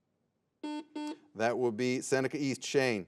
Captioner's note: buzzer beeps